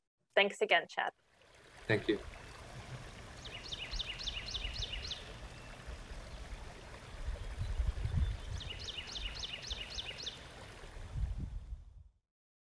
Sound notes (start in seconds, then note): 1.2 stream burbles; 1.9 birds chirping